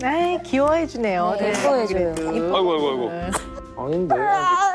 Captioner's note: cough cough